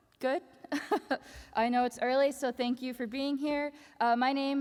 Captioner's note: laughs